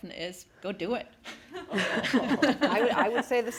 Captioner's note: everyone laughing